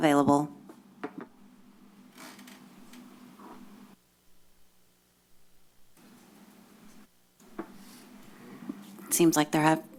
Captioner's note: silence